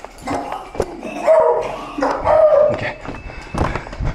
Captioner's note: barking